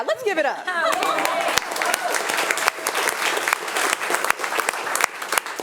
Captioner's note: attendees applauding